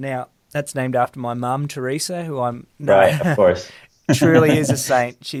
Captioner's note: laughs